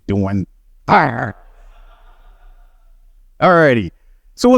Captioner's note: he growls